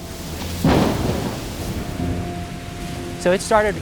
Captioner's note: thunder clap